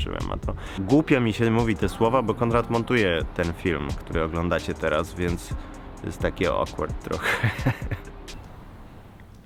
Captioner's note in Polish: śmiech